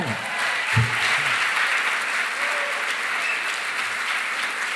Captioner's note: cheering, applause